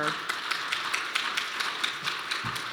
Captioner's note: applause